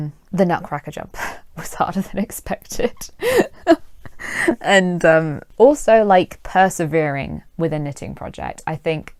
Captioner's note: chuckles